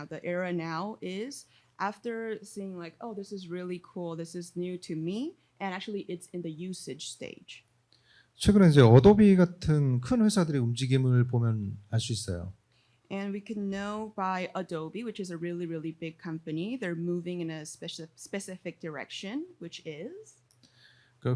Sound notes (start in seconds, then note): 8.7 speaking korean